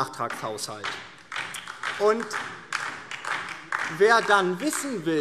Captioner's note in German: Beifall DIE LINKE